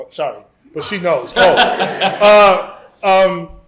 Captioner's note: laughter